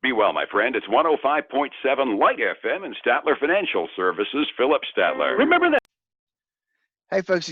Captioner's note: radio